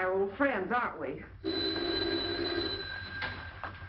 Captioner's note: phone rings